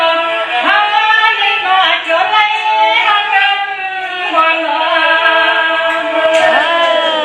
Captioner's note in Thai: ปรบมือ